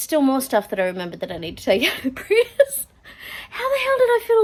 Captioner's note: laughs